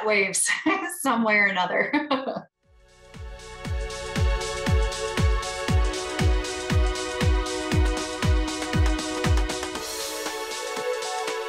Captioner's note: laughter